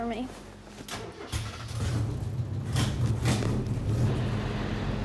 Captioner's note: car starts